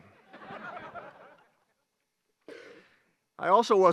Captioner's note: graduates laugh